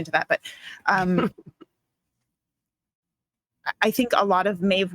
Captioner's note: chuckling